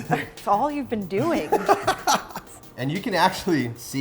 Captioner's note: laughing